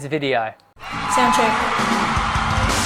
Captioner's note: crowd roars; drum flourish